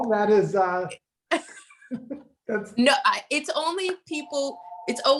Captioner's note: phone ringing